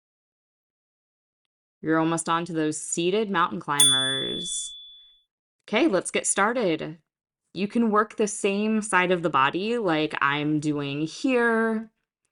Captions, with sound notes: You’re almost on to those seated [chime] mountain climbers. ‘Kay. Let’s get started. You can work the same side of the body like I’m doing here.